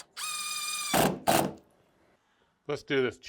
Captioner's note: drill running